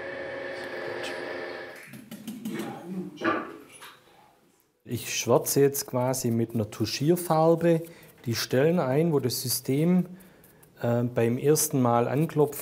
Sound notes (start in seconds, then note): 2.1 hamming, fragments of words